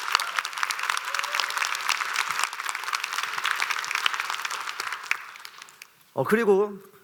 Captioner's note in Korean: 박수